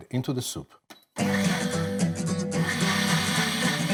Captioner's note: blender whirs; catchy instrumental music